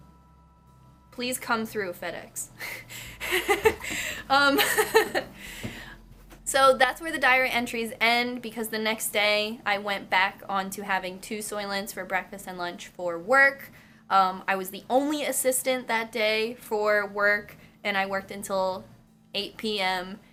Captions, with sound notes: Please come through FedEX *laughs* Um so that is where the diary entries end Because the next day I went back on to having two Soylents for breakfast and lunch For work um I was the only assistant that day for work and I worked until 8 pm